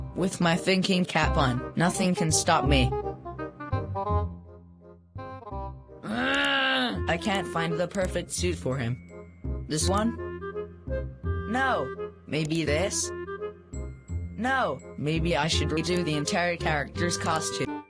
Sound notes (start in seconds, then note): 6.0 angrily groans